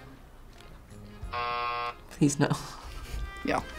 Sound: buzzer

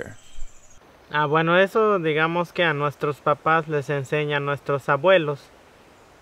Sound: speaking in Spanish language

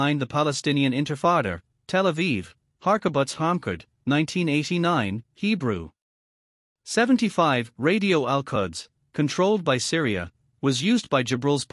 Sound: Hebrew

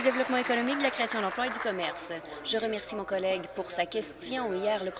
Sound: applause

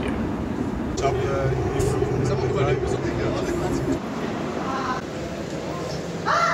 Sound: people chatting; someone shouting

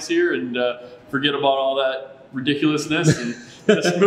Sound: laughs

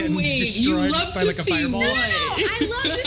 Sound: group chattering

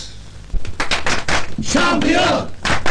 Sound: students cheering “Champion! Champion!”

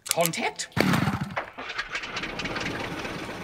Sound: vroom!

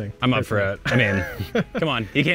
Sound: laughs

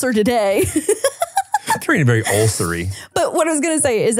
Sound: laughing

